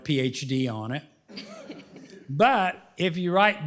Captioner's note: laughter